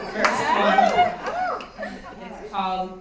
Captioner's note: cheering